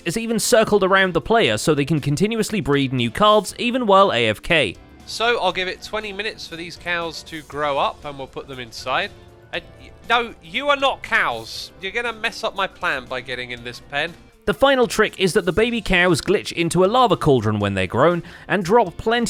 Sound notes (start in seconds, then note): 9.0 stammers